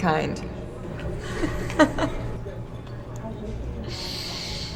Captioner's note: chuckles